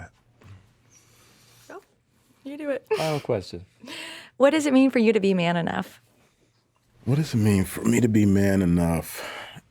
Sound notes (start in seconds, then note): 2.9 laughing